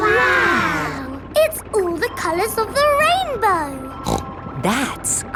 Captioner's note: snorts